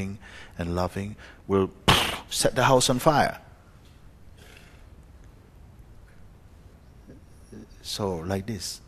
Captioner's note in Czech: napodobuje explozi